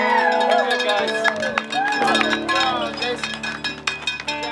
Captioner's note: cow bell rings; crowd cheering